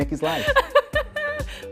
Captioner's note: laughs